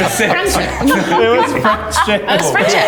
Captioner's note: everyone laughs